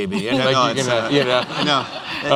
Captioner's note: laughter